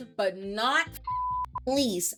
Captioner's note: beep